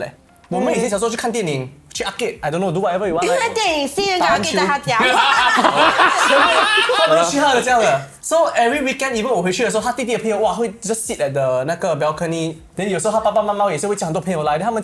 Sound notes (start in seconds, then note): 4.3 laughs